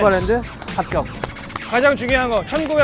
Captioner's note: clap clap clap